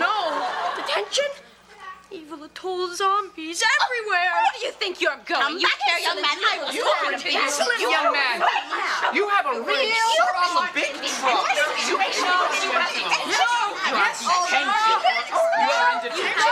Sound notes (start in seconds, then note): 6.5 girls chattering; 11.4 everyone chattering